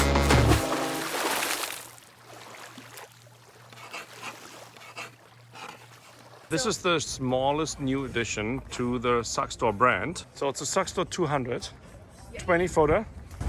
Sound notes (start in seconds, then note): 0.0 foghorn blares; 0.0 water splashing; 3.7 water rustles; 4.8 pen scraping